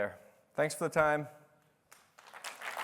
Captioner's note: applause